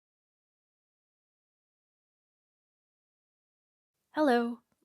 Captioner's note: silence